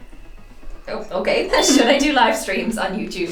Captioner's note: laughs